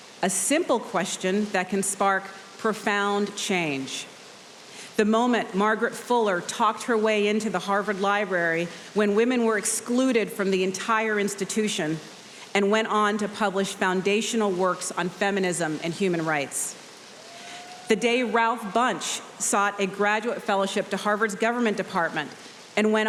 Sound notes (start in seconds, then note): 17.2 audience cheering